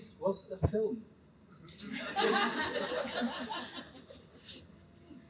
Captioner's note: laughter